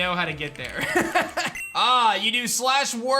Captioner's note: laughs